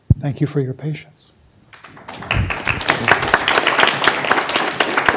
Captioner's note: applause